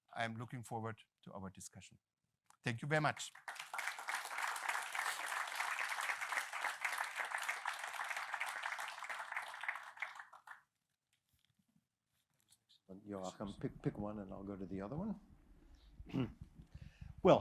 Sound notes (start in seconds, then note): 4.2 applause